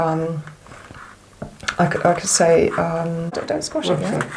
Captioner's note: big swallow